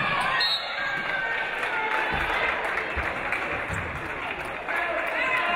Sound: referee blows whistle

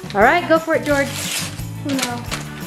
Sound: paper ripping

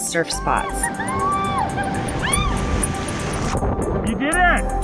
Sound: cheering

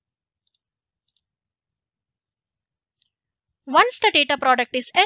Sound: mouse clicking

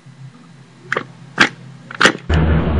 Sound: cracking sound

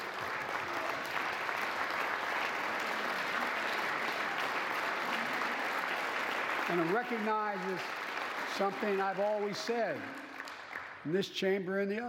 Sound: applause

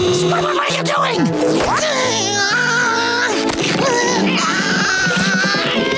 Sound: grunting

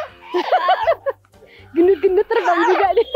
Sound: chuckled

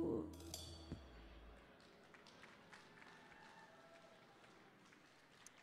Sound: audience applauding

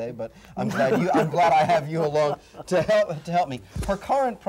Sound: laughs

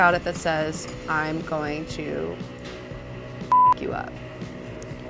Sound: beep

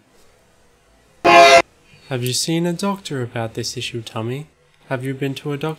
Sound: train noise

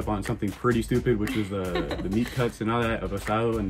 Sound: laughs

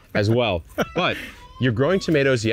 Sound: laughing

